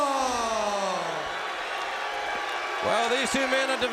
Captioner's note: crowd cheering